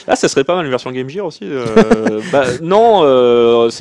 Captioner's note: laughs